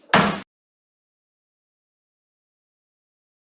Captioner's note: gavel bangs